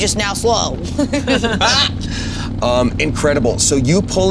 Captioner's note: all laughing